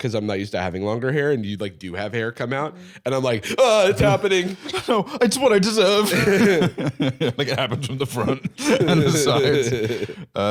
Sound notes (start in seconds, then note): 6.8 laughs; 9.5 laughing